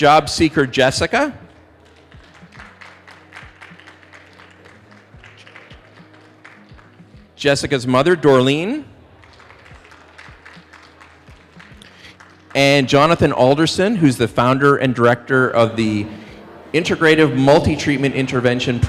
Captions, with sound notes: Job seeker, Jessica. (applause) Jessica's mother, Dorlean. (applause) And Jonathan Alderson, who's the founder and director of the Integrative Multi-Treatment Intervention